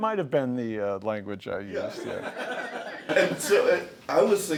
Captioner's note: laughs